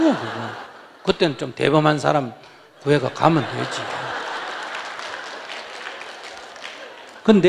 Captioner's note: audience Laughter; audience Laughter